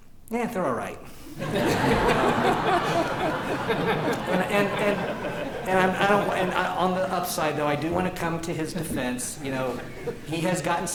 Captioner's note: laughter